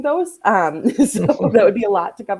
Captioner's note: all laughing